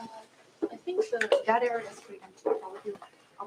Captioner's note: background chatter